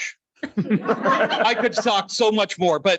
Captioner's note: light laughter